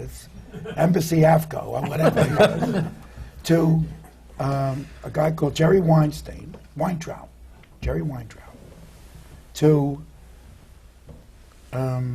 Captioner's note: laughter